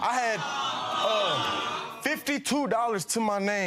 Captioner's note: audience awes